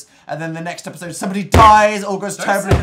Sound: hits table

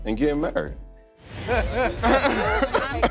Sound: laughter

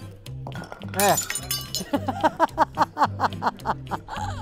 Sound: glass shattering; laughing

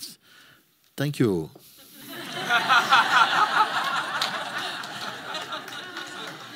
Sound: laughter

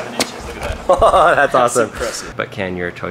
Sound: laughing

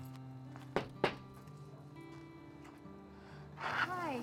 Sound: knock on door

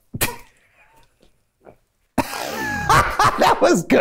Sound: laughs

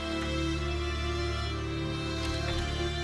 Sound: door opens

